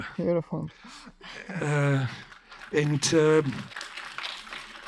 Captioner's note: audience clapping